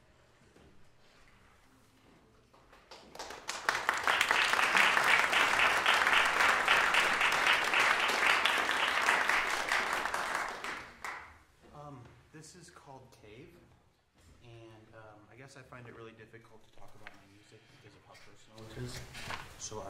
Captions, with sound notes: [applause] This is called “Cave." And I guess I find it really difficult to talk about my music because of how personal it is, so